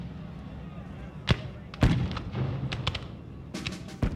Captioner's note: gunshots Firing